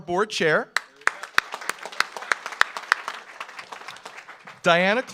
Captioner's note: audience applauds